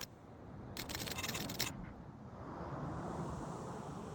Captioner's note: typing clicks